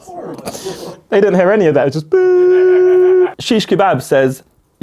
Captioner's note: imitates beep sound